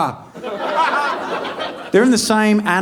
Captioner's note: audience laughing